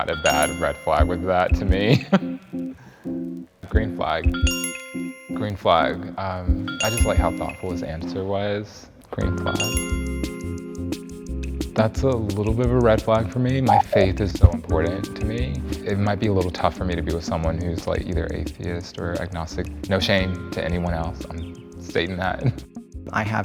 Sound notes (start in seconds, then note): 1.8 chuckles; 4.4 bell chimes; 9.3 bell chimes; 13.6 sound effect blips